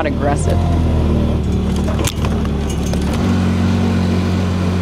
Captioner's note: engine revving